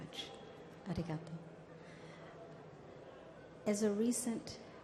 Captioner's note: speaks in language other than English